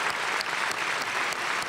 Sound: applause

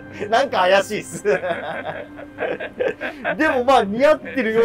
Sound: laughing

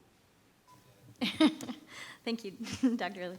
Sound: laughs

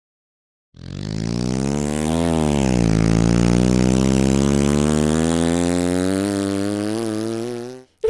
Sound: motor sputtering

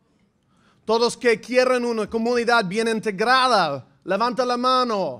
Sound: speaking in foreign language

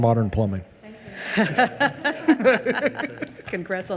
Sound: both laugh

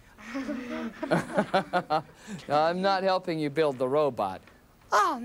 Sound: laughs

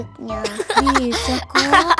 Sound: laughing

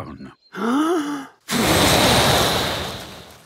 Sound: inhaling deeply; blowing

